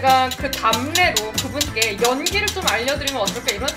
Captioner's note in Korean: 휘젓는 소리